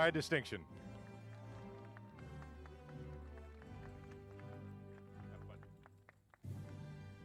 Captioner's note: applause